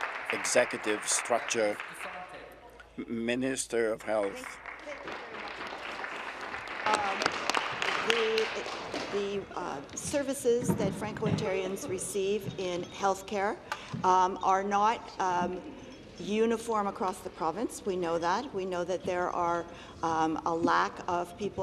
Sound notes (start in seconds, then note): 9.6 applause